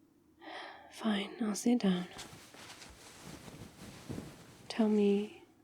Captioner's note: sighs